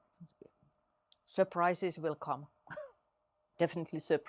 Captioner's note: chuckles